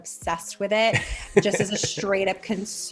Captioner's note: laughing